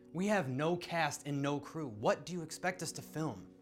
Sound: none

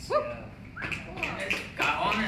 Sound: clapping

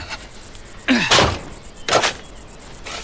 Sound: man grunting; ironing board clunks; shovel scratching

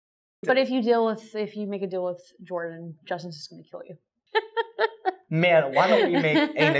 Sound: mirth

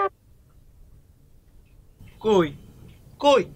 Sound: normal voice

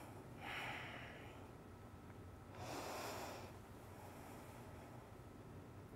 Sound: inhales and exhales

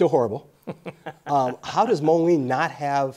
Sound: laughing

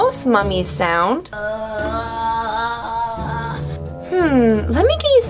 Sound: moaning

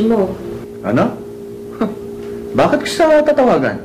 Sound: scoffs

